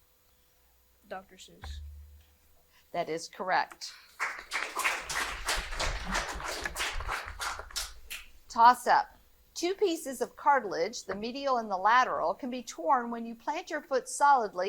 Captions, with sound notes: - Dr. Seuss. - That is correct. (audience applauding) Toss up. Two pieces of cartilage, the medial and the lateral, can be torn when you plant your foot solidly